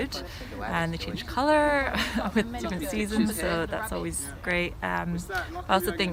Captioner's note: laughs